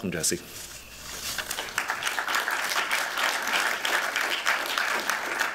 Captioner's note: applause